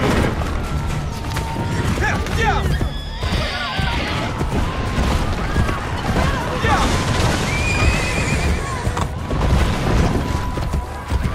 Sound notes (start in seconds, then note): 2.4 people screaming